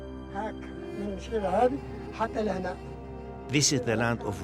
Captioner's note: speaking in foreign language